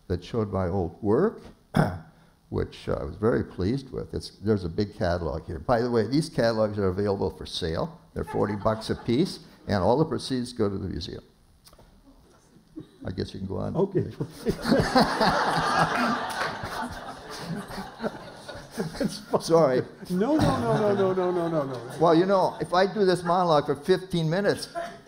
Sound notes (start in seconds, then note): 14.3 laughter